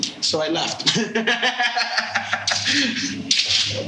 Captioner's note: laughing